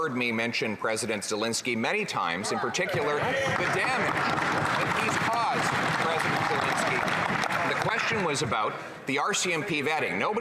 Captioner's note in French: voix de l'interprète